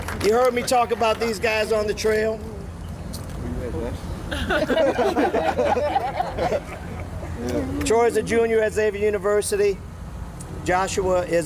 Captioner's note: applause